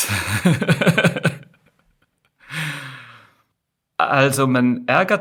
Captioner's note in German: gelächter; japst; seufzt